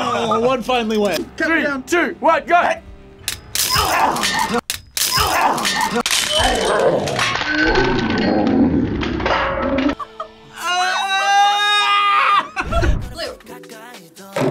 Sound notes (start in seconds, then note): 3.3 hangers clattering; 10.5 screams; 12.3 laughs